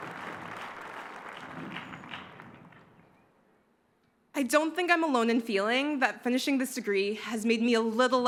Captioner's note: cheers and applause